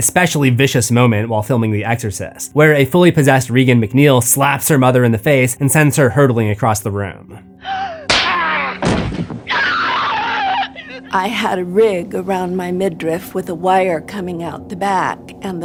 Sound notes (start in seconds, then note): 4.3 slaps; 7.6 screaming; 8.8 slap